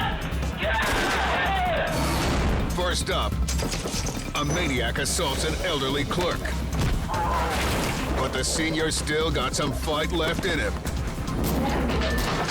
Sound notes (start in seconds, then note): 0.6 screams